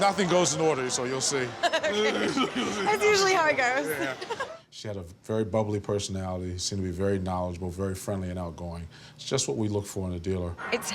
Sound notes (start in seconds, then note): 0.1 laughs